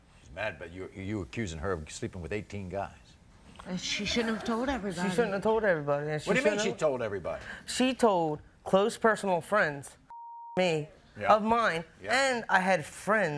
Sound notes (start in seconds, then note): 10.1 beep